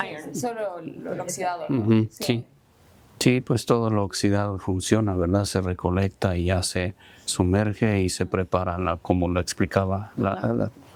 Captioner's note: translator and speaking spanish